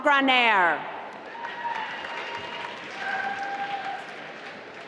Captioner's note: applause